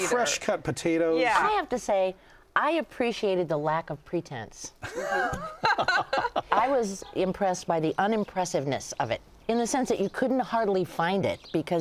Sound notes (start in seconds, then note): 4.8 laughter